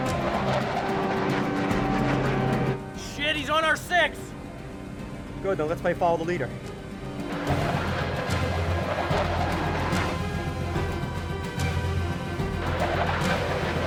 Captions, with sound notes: - Shit, he's on our six! - Good, then let's play Follow the Leader. (intense, dramatic music) (aircraft whooshing)